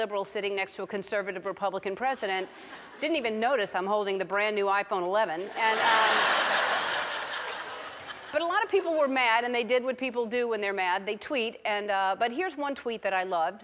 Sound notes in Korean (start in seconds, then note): 5.5 관객 웃음; 5.5 청중 웃음